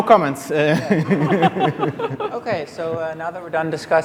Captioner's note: laughing